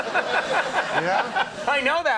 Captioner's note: Conan laughing